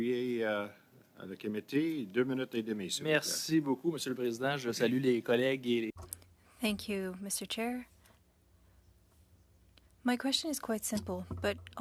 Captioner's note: speaking French